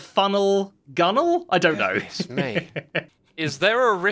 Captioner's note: chuckles